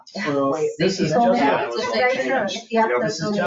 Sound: people chatter

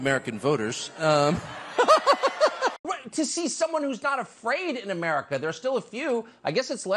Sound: laugh

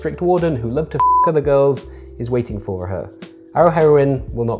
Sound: beeps

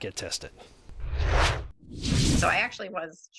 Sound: air whooshing

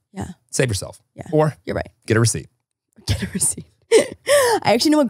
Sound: laughing

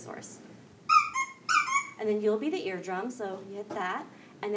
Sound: horn squeaks

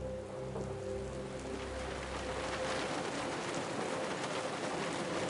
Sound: rain pouring down on car

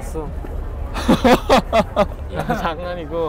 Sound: laughing

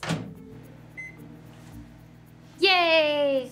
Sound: microwave beeps

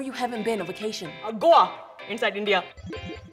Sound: electronic chime

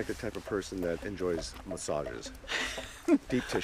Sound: giggles

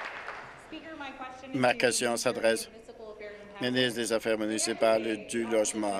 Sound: applause

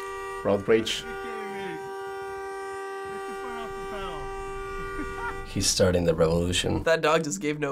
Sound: car horn

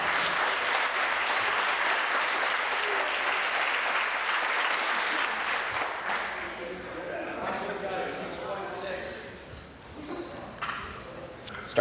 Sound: applause

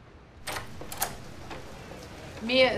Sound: door opens

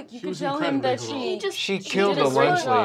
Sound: laughs

